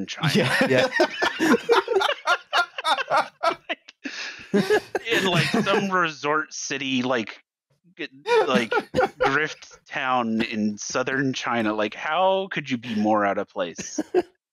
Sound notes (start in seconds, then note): 0.1 laughing agreement; 7.8 laughter; 11.0 laughter; 13.7 laughter